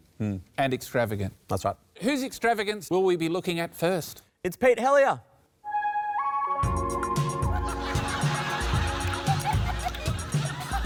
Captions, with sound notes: That's right. Whose extravagance will we be looking at first? It's Pete Helliar! (CATWALK MUSIC PLAYS) (LAUGHTER)